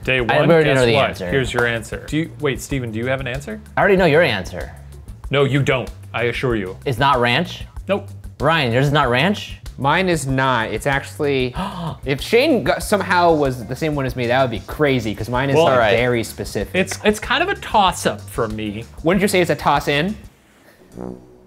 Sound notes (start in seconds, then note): 11.5 gasps